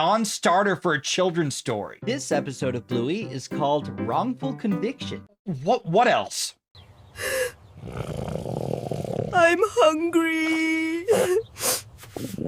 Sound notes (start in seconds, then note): 7.2 gasps; 11.1 sniffles